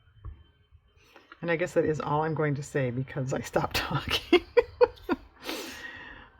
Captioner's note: laughs